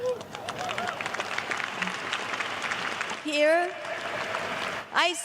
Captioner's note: cheers and applause